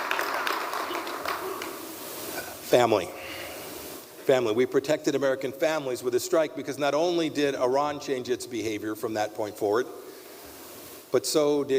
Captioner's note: applause